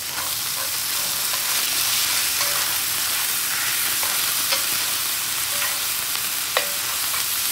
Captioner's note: sizzling